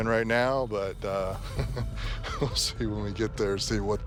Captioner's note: laughs